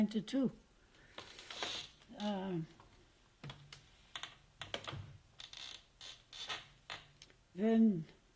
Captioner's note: pauses for 7 seconds